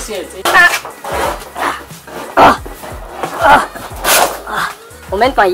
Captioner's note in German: Kampfgeräusche